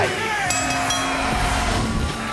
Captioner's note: bell ringing